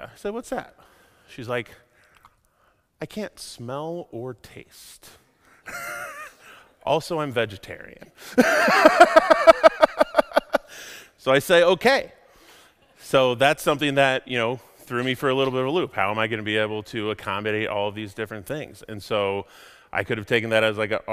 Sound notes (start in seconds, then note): 5.6 laughs; 8.4 laughs hysterically